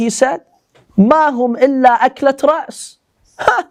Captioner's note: Arabic